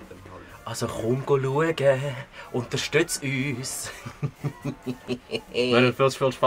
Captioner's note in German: böses Lachen